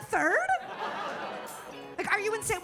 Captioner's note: audience laughing